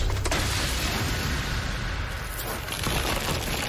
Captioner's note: glass shattering